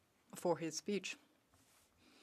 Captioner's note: speaking French